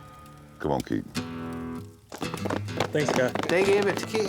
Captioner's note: applause